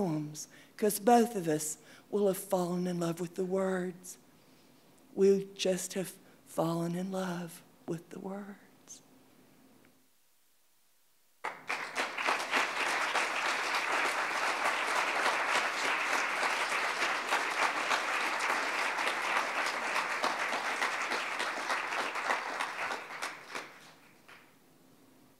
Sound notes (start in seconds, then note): 9.2 audience clapping